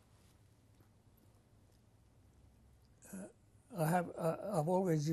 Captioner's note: pauses for 3 seconds